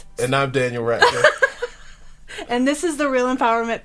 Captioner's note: laughing